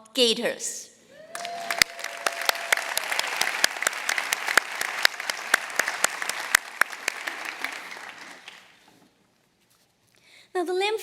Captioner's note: applause